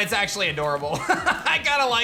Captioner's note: laughs